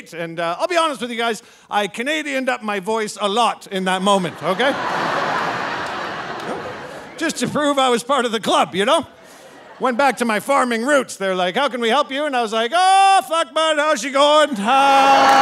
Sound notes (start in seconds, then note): 4.2 audience laughing